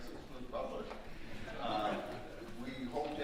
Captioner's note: audience laughing